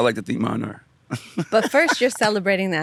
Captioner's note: laughs